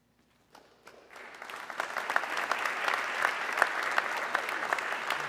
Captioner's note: audience clapping